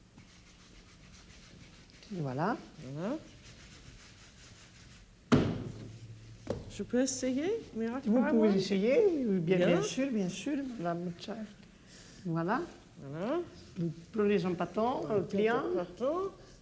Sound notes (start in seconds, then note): 6.2 speaking French; 13.4 conversing in French